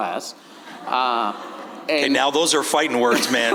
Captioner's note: audience laughing